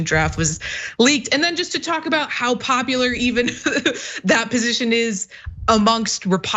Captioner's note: laugh